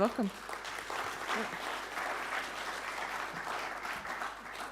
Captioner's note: audience clapping